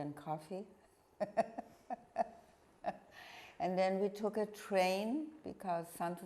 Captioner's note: laughing